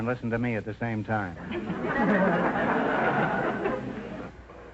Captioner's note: audience laughter